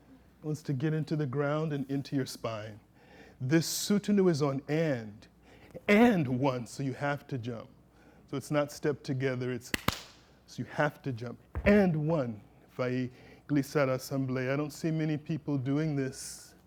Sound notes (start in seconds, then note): 9.7 clap clap